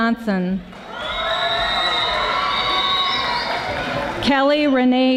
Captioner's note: audience applauding